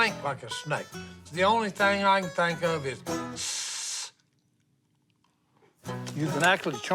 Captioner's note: hissing sound